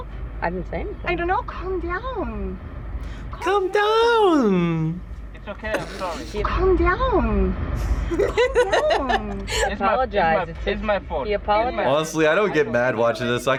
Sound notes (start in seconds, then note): 5.7 snickers; 7.8 laughs